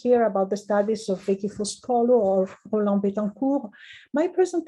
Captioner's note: speaking in foreign language